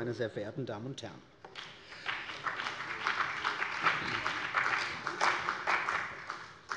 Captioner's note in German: Beifall bei der CDU und dem BÜNDNIS 90/DIE GRÜNEN